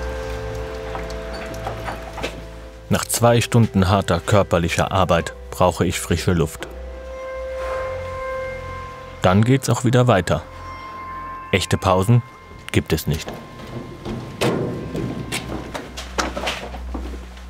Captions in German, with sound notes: Nach zwei Stunden harter körperlicher Arbeit brauche ich frische Luft. Dann geht's auch wieder weiter. Echte Pausen gibt es nicht. (Metallisches Klappern)